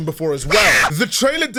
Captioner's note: screaming